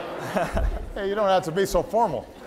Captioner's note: laughter